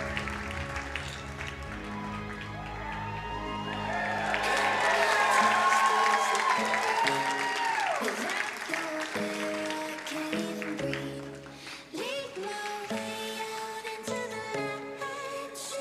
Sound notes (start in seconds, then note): 0.1 ambient music; 3.0 crowd cheering and applauding